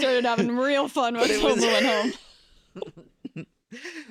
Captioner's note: laughter